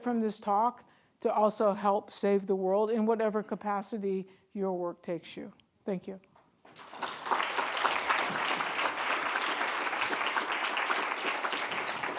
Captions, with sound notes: from this talk to also help save the world in whatever capacity your work takes you. Thank you. (audience clapping)